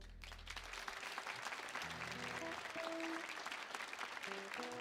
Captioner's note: audience applauding